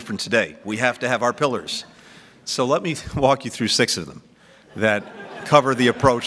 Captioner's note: laughter